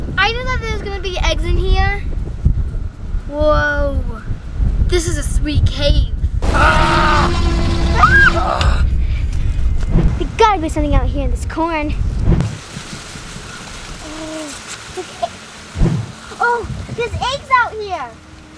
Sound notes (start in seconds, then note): 6.5 shouts suddenly; 8.2 shrieks; 11.9 leaves rustle